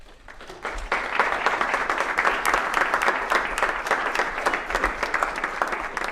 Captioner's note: applause